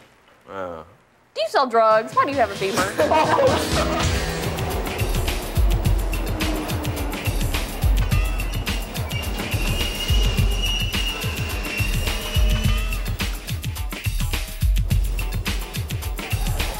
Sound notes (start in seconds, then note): 2.8 group laughing; 5.8 upbeat music; 9.9 train screeching